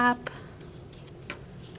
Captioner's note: brushing